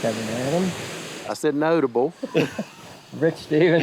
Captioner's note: both laughing